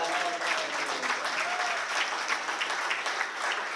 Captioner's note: applause